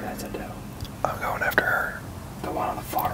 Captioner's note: whispering